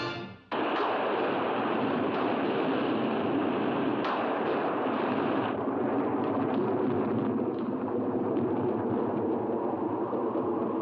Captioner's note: loud thunder; wind howling